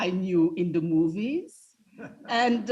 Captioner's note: students laughing